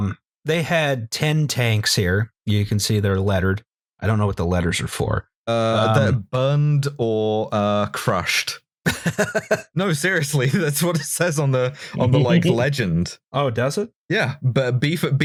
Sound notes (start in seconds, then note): 8.8 laughter